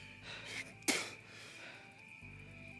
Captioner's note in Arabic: يبصق